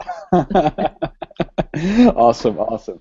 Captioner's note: both Laugh